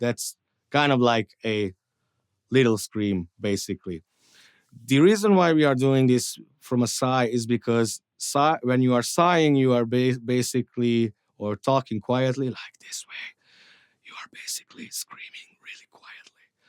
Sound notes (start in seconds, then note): 12.2 whispering